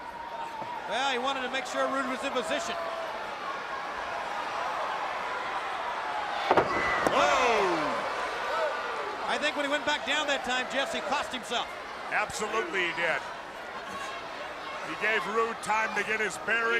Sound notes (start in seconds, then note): 3.0 crowd cheering